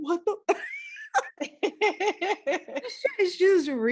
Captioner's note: laughing